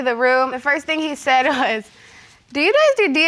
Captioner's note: none